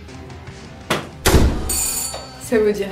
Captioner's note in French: porte qui claque; sonnette